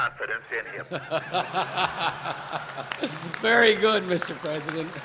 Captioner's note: laughter